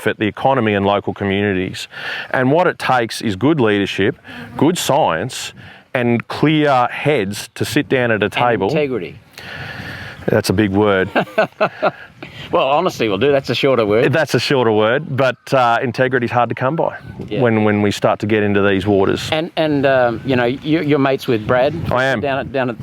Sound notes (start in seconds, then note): 11.0 laughter